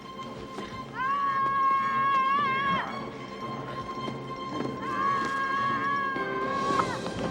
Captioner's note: Luke screaming; dramatic music